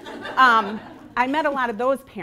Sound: laughing

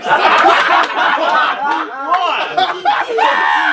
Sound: people laughing

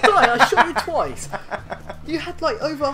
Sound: proud laughter

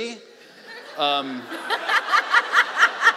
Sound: laughing

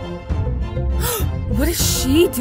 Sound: gasp

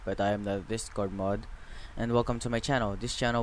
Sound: breathing

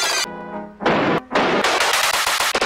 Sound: smacking, banging, various other sound effects; whack--whack--whackwhack

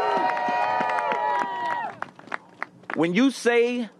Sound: applause

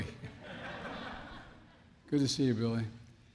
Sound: laughter

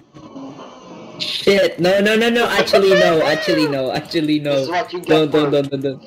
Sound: whooping in Background

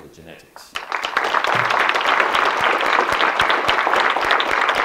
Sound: audience clapping

